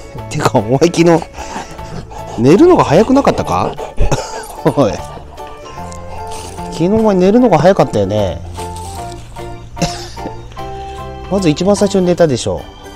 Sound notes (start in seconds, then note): 4.0 laughs